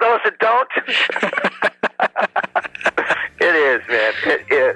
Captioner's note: laughs